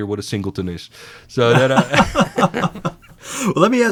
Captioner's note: laughing